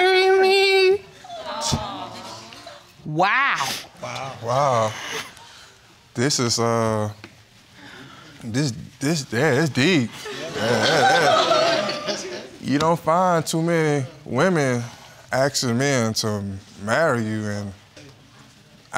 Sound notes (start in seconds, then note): 1.3 audience exclaiming; 10.2 all laughing; 11.2 stammers